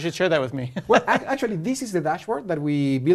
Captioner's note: laugh